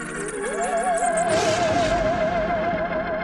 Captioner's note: scary music; thunder